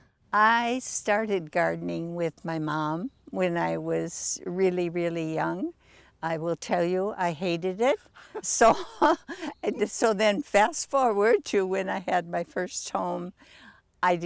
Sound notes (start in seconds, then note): 8.2 chuckling